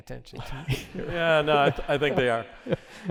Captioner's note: laughter